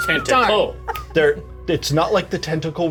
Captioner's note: Certainty laughing; snaps